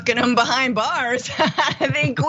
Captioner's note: laugh